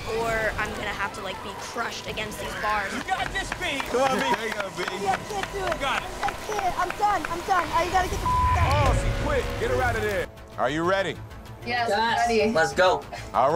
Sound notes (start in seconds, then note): 8.2 beep